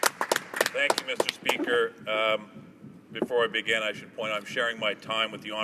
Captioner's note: applause